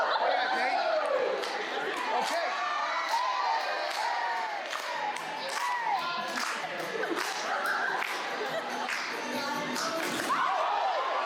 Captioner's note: applause